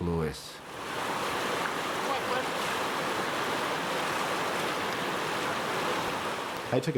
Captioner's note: river Sounds